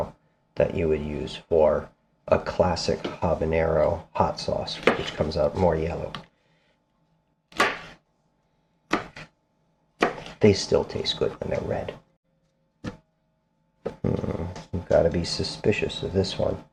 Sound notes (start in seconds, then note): 7.6 knife cutting